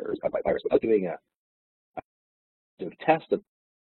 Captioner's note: audio distorts